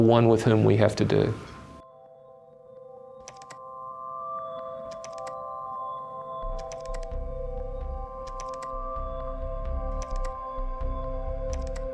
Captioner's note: ambient music; keyboard clicking